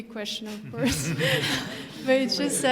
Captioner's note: laughter